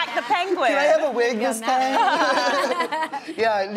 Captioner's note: laughing